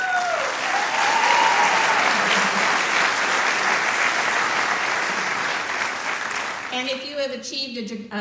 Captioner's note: applause